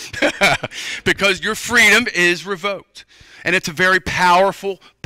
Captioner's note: laughter